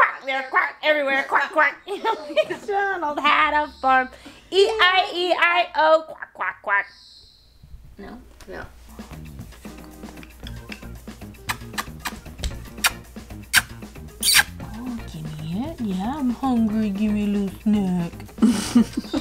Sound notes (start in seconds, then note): 9.2 upbeat music; 11.4 lips smacking